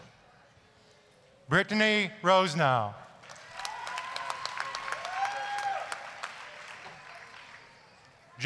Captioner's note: applause, cheering